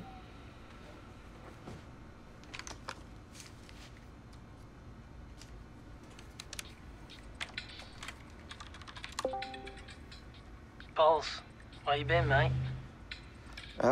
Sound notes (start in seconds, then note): 7.1 keyboard clicking; 9.2 game beeping